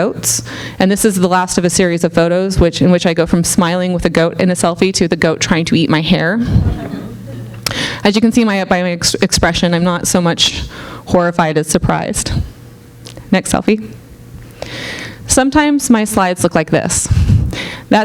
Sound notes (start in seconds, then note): 6.6 audience laughing